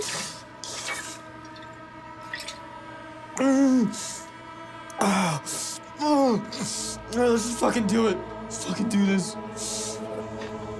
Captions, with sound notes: (groans) (tense music) Let's just fuckin' do it. Let's fuckin' do this.